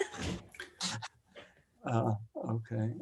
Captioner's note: laughing